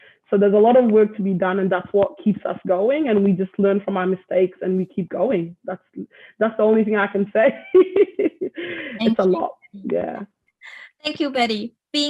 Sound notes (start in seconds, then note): 7.5 laughs